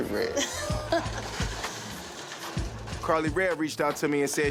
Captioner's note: laughs